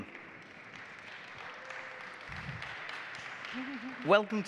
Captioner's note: audience applauding